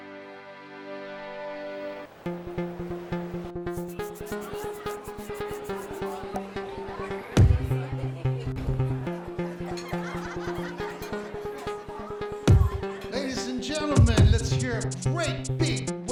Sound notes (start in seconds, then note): 3.2 techno music; 9.5 laughter; 10.1 techno music